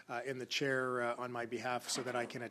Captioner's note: speaking French